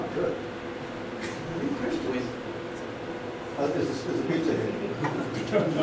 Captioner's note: laughter